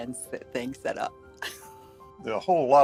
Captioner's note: chuckles